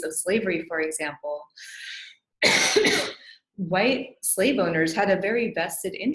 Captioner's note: coughs